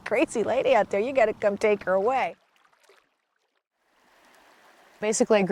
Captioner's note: water rushing